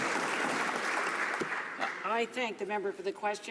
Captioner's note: some Applause